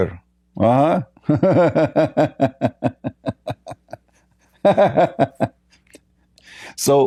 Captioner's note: Ketawa